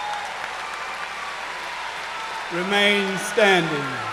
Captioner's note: cheers and applause